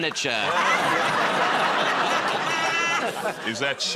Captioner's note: laughter